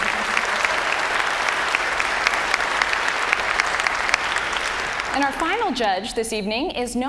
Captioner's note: applause